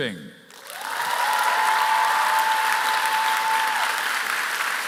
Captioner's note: applause